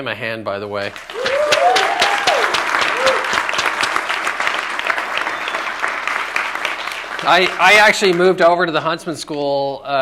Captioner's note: applause